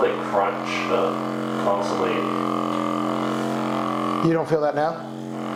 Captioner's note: machine vibrating